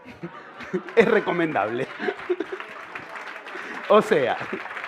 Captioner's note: laughter and applause